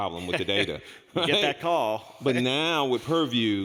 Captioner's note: laughs